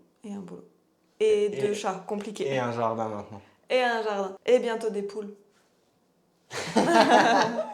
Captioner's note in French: rires